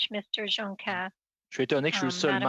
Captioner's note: speaking French